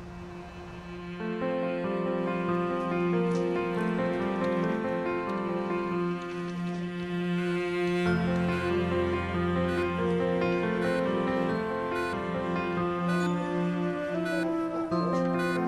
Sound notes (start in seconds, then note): 0.1 uplifting instrumental music; 9.8 monitor beeping